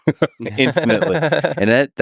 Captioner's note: Tim and Lex laughing